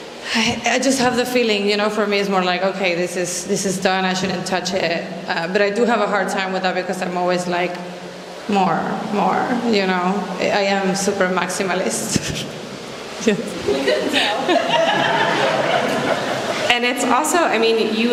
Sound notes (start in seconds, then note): 13.4 laughs; 13.6 laughter